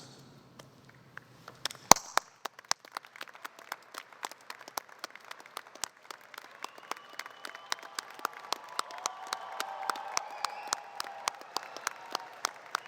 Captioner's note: applause